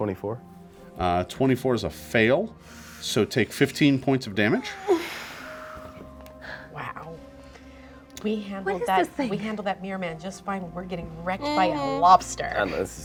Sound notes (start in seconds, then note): 5.1 deep exhales